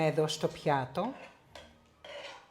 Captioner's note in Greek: σιγή